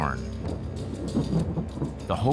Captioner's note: thunder rumbles